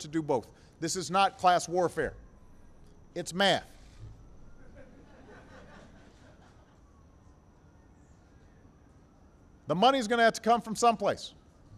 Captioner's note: laughter